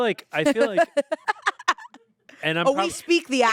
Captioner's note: laughs